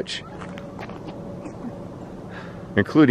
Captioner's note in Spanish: sonidos de pavo